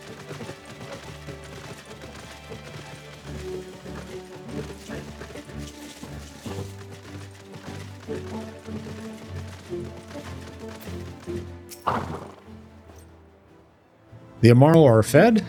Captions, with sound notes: [whistles] The Amaro are fed?